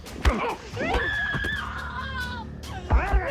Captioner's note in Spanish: Golpes